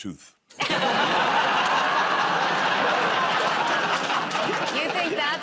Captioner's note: laughter